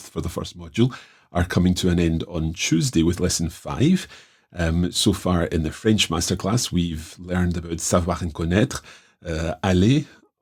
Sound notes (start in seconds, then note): 7.6 speaking in French